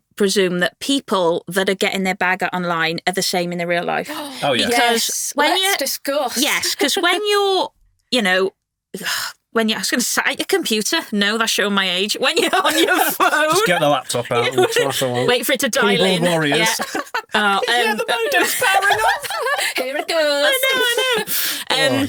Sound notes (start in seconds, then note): 4.1 sighs; 9.4 sighs; 13.3 laughing; 16.7 laughing; 19.1 all laughing